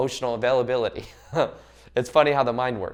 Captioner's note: laughs